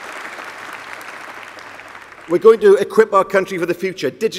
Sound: applause

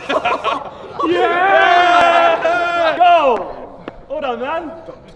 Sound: all laughing

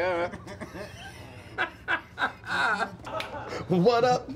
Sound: everyone laughing

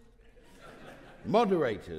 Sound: audience laughing

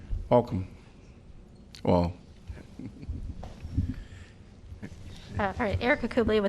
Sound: laughter

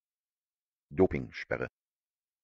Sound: fast Pronunciation

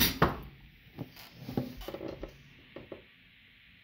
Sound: table creaking under my fat lardass

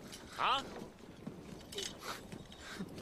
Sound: pants and sniffs

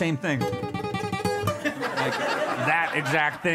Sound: audience laughs

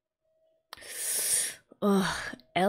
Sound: sharp inhale

